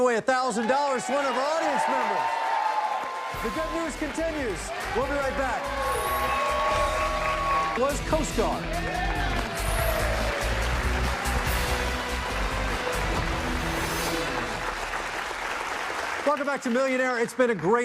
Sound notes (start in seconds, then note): 9.7 cheers and applause; 12.7 dramatic music